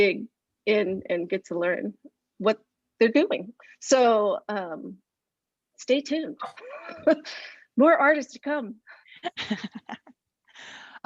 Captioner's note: laughs